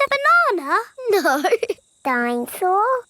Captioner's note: laughing